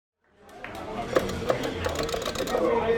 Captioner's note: chatter